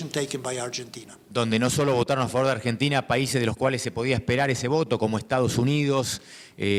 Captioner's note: speaking in foreign language